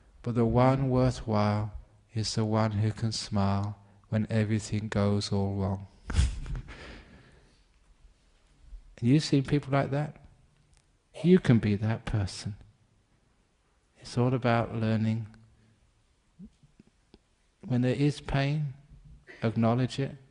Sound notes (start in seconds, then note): 6.0 laughter